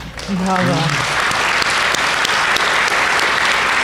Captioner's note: applause